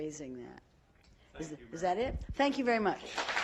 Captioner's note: applause